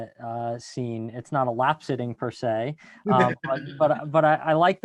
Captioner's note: laughs